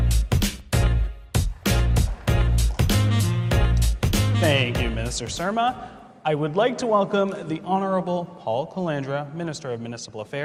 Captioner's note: applause